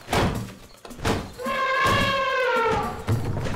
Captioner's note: thumping and trumpeting